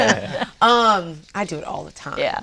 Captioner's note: laughs